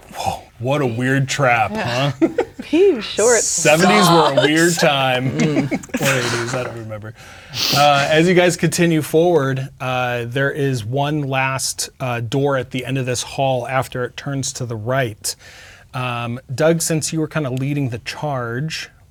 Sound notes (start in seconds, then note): 5.0 exclaiming